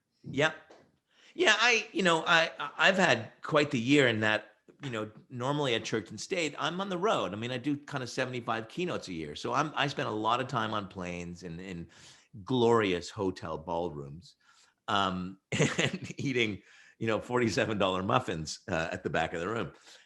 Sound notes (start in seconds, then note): 15.5 laughs